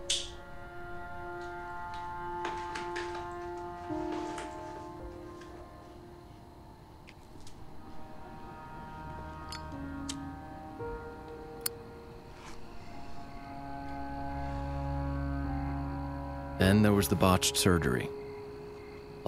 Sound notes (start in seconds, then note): 0.1 melancholic music; 7.8 insects chirp and buzz